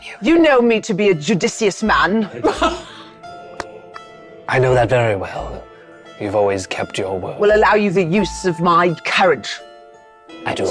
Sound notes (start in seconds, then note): 2.4 chuckling; 3.5 applauding